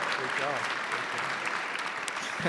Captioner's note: applause